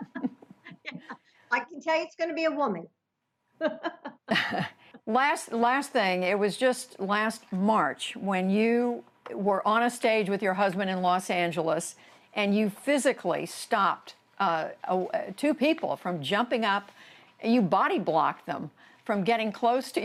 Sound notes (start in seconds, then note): 3.6 laughter